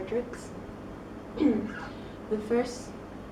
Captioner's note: ahem